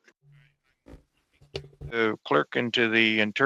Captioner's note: speaking French